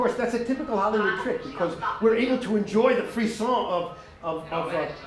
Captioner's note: french